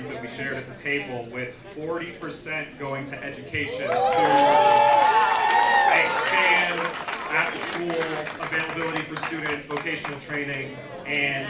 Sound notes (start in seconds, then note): 3.6 cheers and applause